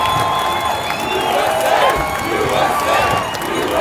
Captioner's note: crowd cheering and applauding; crowd